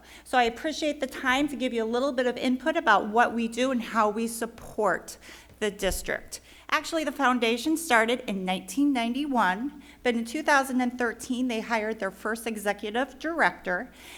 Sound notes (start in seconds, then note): none